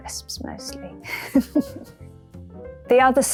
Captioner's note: laughing